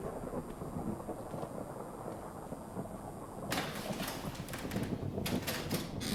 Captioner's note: thundering